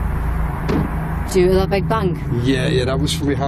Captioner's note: loud thud